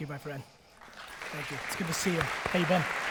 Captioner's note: audience applause